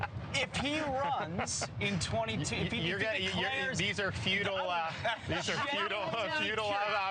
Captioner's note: laugh